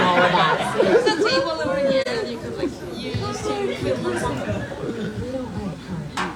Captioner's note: chatter